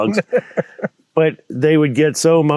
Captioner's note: laughing